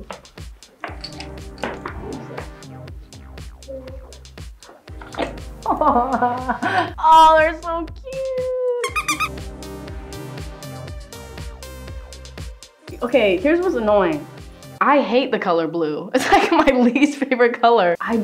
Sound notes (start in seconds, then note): 5.6 laughs; 8.8 ball squeaks